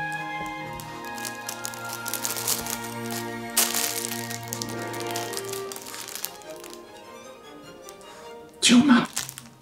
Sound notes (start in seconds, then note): 1.2 toy crackling